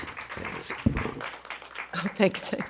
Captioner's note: audience applauding